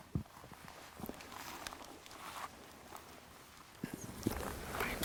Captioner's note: brush crunching